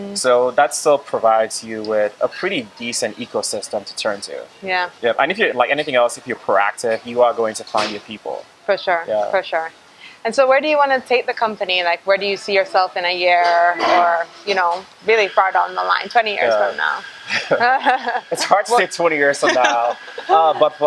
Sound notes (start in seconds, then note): 17.2 laughing